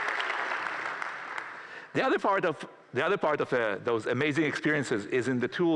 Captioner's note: applause